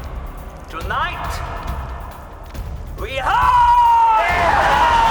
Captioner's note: cheering